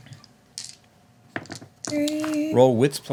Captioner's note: dice rolling